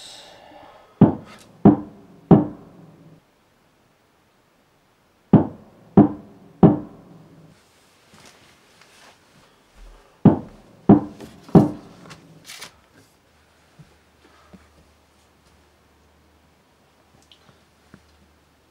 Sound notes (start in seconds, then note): 2.2 knocking from attic door